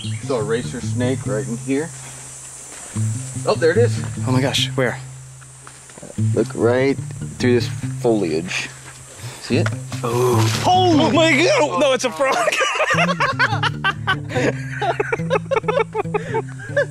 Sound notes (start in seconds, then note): 12.0 laughs; 13.6 brothers laughing